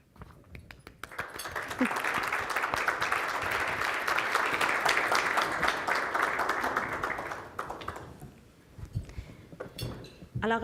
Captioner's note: audience clapping